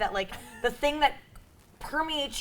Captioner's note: chuckles